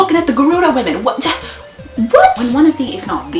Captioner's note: concerned old lady noises